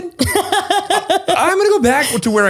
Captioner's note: laughs